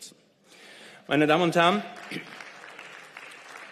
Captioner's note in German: Beifall